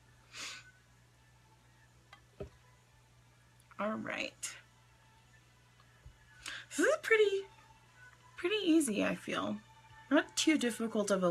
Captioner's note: sniffs